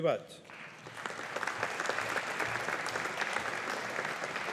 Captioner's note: audience applauding